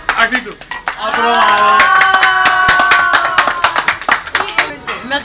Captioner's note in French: applaudissements